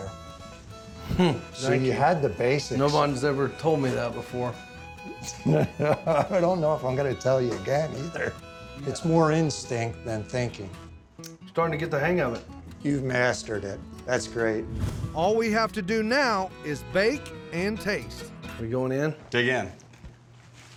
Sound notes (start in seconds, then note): 1.0 laughs; 5.1 laughter